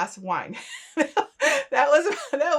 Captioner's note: laughing